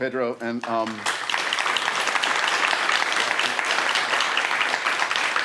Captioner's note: audience applauds